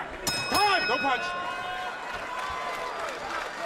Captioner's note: bell rings